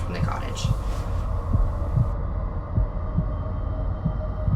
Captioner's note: heart beating